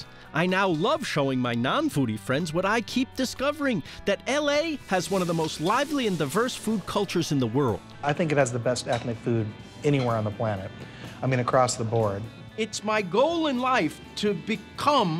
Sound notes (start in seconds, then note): none